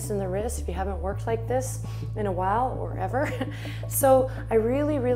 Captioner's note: chuckles